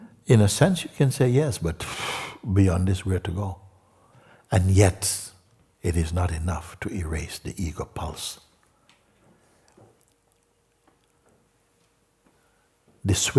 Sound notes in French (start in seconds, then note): none